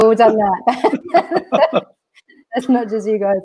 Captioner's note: laughing